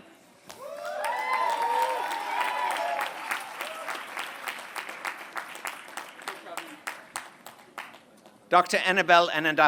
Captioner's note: applause